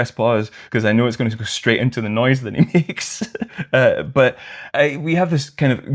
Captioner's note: laughter